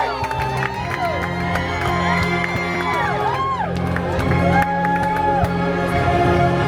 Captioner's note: guests cheering and applauding